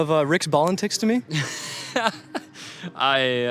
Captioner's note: laughs